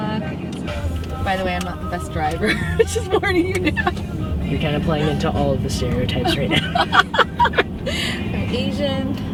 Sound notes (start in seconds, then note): 6.1 laughter